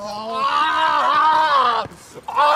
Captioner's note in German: Schreie